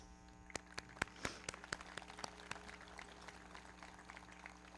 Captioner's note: everybody clapping